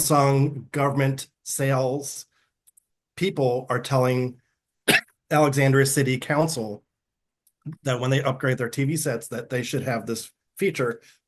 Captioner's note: coughing